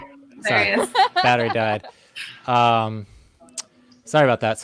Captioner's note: laughs